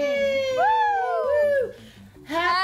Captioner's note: puppets cheer